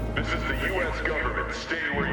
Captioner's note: loudspeaker